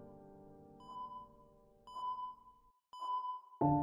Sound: beeping

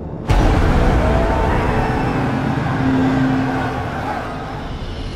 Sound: yelling and cheering

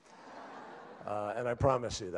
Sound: laughter

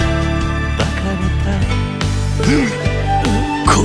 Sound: groaning

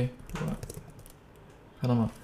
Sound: typing sound

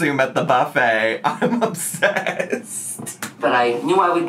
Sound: laughs

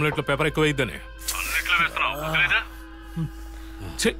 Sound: grumbling

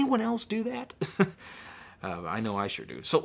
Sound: laughing

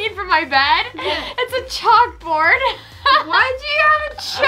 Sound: laughs

